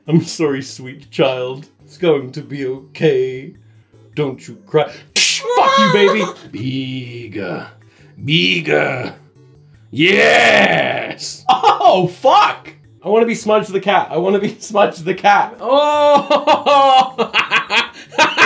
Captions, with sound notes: I'm sorry sweet child, it's going to be okay. Don't you cry. (smack) Fuck you baby! (baby cries) Bigger, bigger. Yes! (laughing) Oh fuck! I wanna be Smudge the cat, I wanna be Smudge the cat. Oh... (laughing)